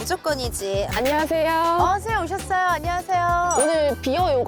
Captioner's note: instructor appears sound